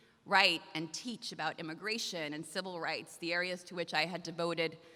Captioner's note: none